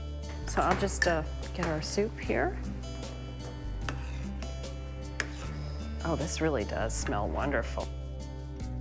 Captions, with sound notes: So I'll just get our soup here. (knife slicing in background) Okay, this really does smell wonderful.